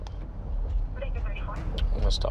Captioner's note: radio noises